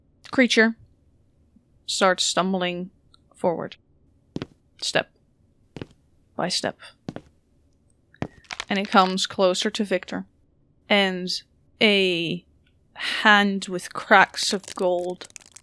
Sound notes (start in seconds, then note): 4.2 footsteps; 11.0 bones cracking